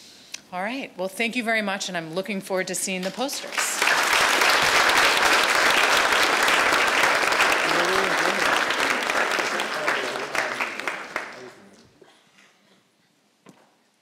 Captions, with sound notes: All right, well thank you very much and I'm looking forward to seeing the posters. (audience applauds)